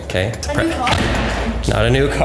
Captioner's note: door bangs